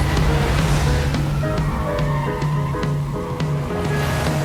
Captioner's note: car skidding